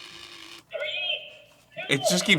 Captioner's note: clock whirrs and resets; clock